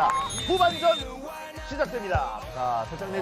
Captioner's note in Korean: 호루라기 소리